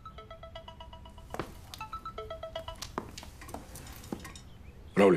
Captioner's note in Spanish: Suena el celular